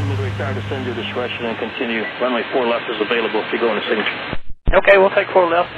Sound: air traffic chatter

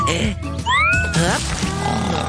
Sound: snoring

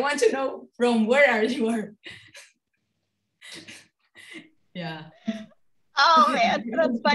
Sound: laugh

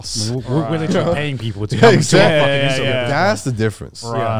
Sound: group chattering

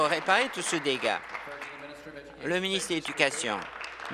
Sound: applause

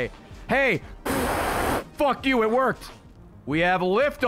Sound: raspberry noise

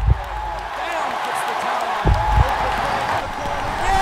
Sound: heartbeat, fans cheering

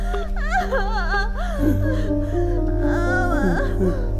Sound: Vasanthi screams in pain

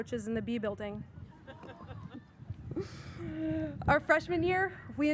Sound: audience member chuckles

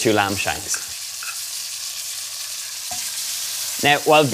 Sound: lamb sizzling

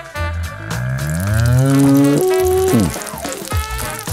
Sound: cow mooing

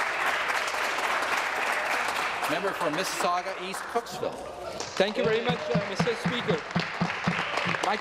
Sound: applause

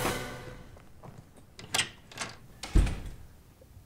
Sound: awkward silence; door opens and slams

